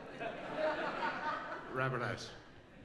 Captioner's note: laughs